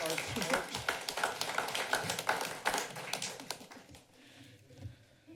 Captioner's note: applause